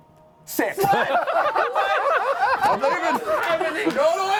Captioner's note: laughter